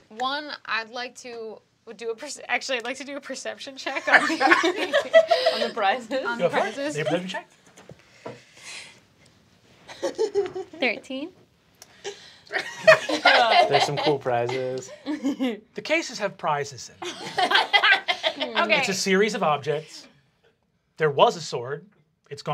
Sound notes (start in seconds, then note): 4.0 laughing; 12.5 laughing; 17.1 laughing